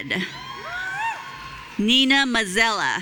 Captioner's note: audience cheering